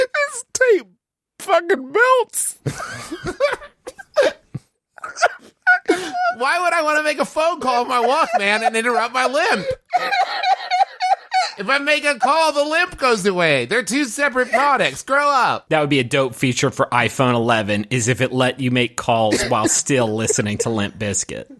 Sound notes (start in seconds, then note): 0.9 strained; 4.9 squeaking like a mouse; 5.0 begins laughing; 10.3 laughing hysterically